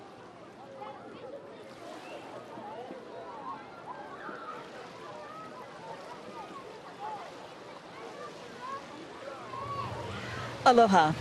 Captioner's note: waves lapping; background chatter